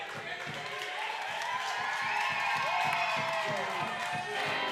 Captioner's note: crowd cheering